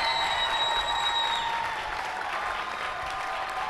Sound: cheers and applause

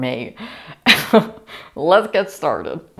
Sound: laughter

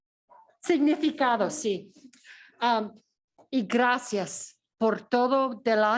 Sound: speaking in foreign language

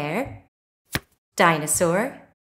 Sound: the sound of a card being turned over can be heard

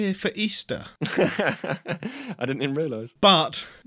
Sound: laughs

